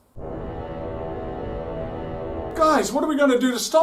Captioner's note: horn sounds again in distance